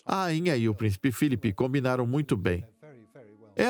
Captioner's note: voiceover